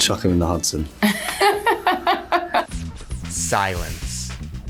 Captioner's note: laughter